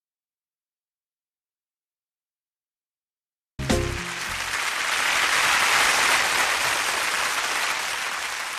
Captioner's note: applause